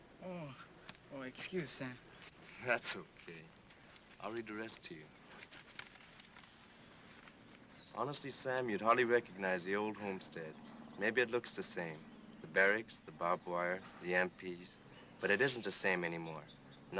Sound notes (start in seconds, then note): none